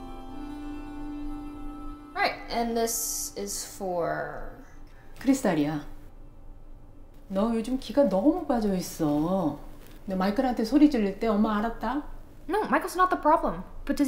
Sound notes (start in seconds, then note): 5.3 mom speaks Korean